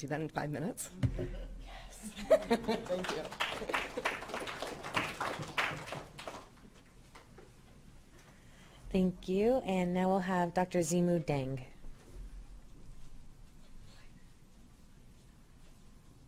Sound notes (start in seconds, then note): 2.0 laughs; 2.3 audience applauding